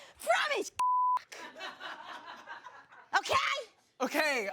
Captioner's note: beep; audience laughs